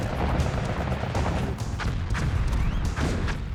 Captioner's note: missiles firing